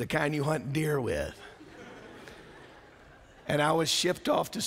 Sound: laughter

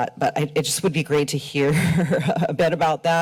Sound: chuckles

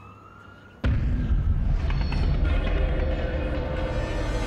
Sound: trains whooshing

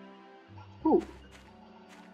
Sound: owl sound

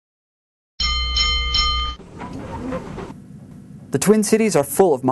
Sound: streetcar bell

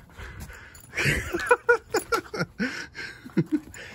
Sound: dad laughing

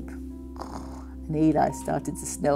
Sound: Joanna snores

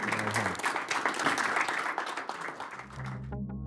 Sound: audience applauds; synthesized music

